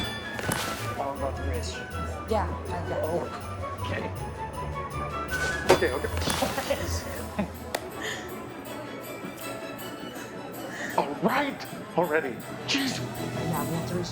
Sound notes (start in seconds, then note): 5.1 target dinging; 6.3 upbeat music